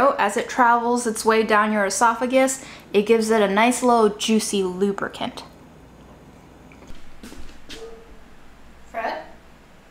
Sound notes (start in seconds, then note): 6.8 footsteps shuffling